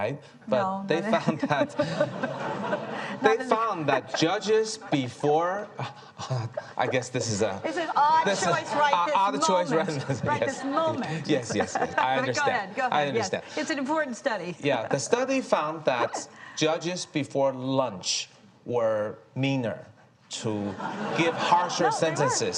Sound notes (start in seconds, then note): 1.9 speaking faintly; 2.9 audience laughing